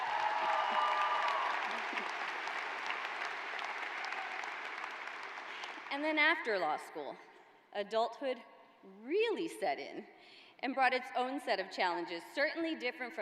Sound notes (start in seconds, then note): 1.8 cheers and applause